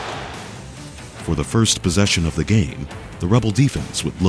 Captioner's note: voiceover